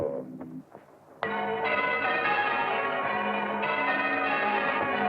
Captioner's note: bells tolling